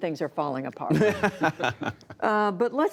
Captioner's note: laughter